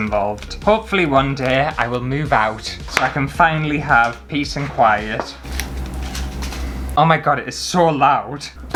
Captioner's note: rumbling Noises